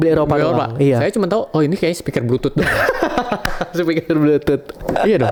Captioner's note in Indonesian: tertawa